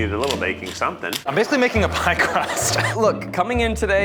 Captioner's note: laughing